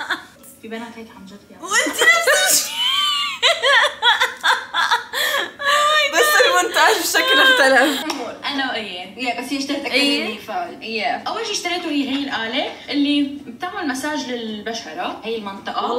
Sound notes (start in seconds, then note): 0.0 laughing; 1.8 laughing hysterically